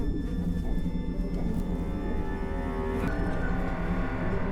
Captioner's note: flies buzzing